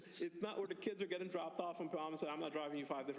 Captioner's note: laughter